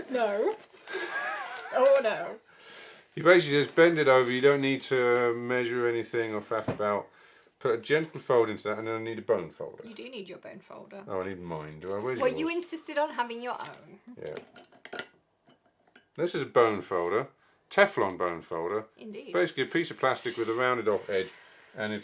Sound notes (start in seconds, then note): 0.8 laughing